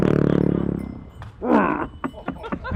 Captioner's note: sousaphone music; coughs; laughs